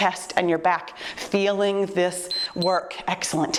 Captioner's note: timer beeps